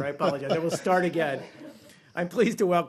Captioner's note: laughter